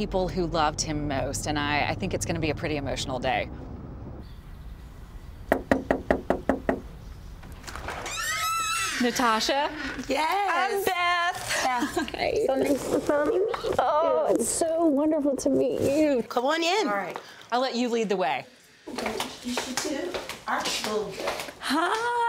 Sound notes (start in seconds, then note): 4.0 door creaking; 5.4 knocking strongly